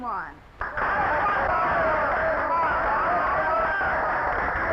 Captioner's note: audience cheering